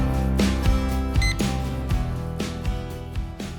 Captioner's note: beep Sound